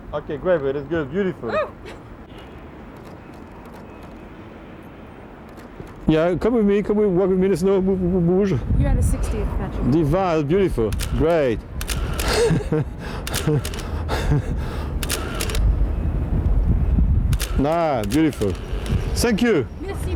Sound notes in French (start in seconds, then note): 12.2 rires; 13.8 halètement